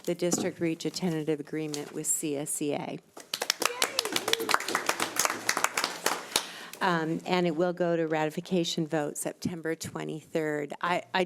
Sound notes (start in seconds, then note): 3.3 audience applauds; 3.6 audience cheers